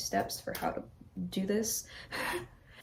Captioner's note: stressed breath of laughter